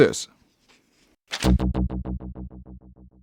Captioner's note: paper rustles